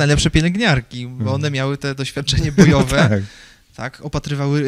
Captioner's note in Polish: śmiech